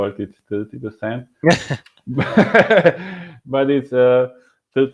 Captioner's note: laughing